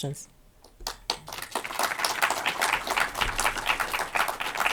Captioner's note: audience clapping